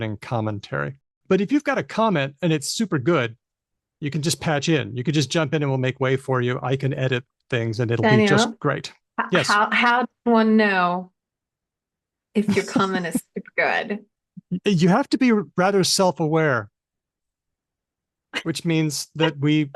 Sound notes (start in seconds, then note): 12.5 laughs